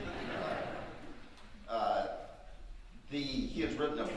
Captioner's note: audience laughing